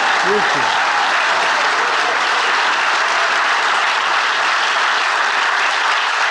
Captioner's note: audience applauding and cheering